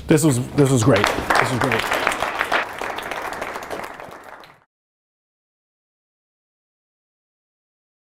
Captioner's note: applause